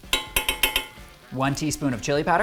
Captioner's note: spoon tapping